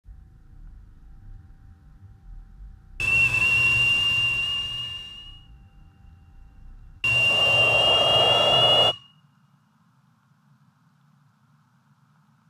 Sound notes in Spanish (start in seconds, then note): 0.0 silencio; 3.0 silbido; 4.6 silencio; 7.0 silbido; 8.9 silencio